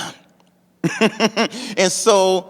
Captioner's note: laughing